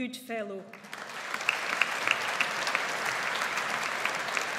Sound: audience applauds

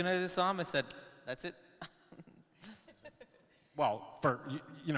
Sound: chuckles

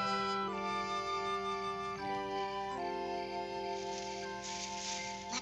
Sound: soft music; crickets chirping; footsteps rustling

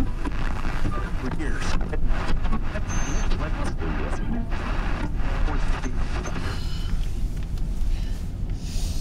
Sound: radio Static

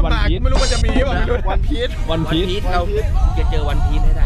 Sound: chuckles

